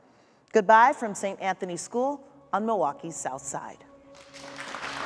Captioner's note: audience applauds